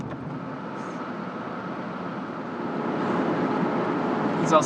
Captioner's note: the soft car rumbling